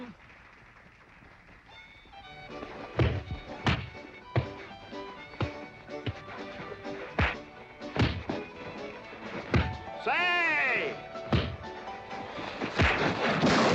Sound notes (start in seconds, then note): 2.4 dull thuds; 12.4 loud crack & crash